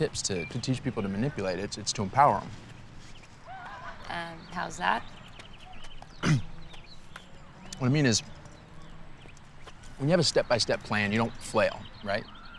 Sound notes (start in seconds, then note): 6.1 clears throat